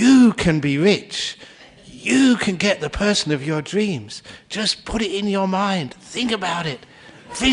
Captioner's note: laughter